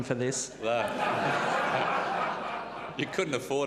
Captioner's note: audience laughs